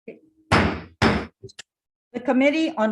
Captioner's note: gavel banging